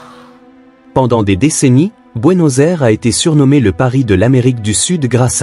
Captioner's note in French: cri